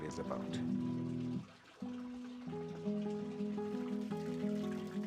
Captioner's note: water softly splashing